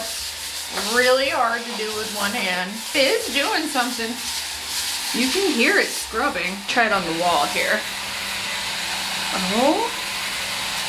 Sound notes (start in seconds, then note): 8.5 cleaning brush continues whirring